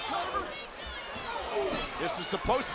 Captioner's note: crowd yelling; wrestlers chattering